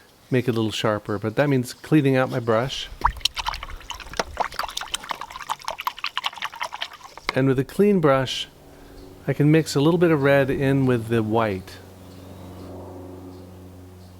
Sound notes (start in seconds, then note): 4.7 water sloshing